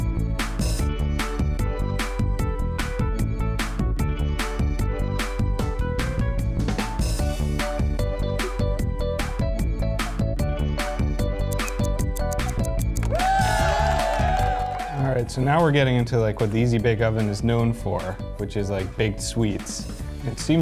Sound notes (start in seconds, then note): 11.5 timer ticking; 13.0 crowd cheering